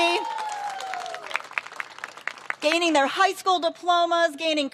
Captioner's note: cheers and applause